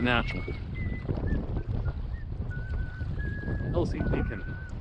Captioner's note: whistling